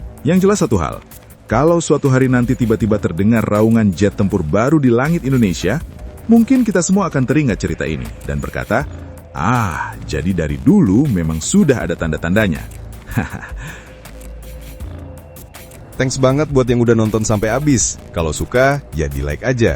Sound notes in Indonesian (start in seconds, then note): 13.0 tertawa